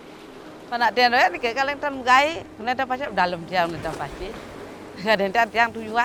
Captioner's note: speaking foreign language